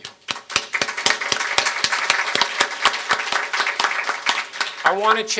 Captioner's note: audience applauding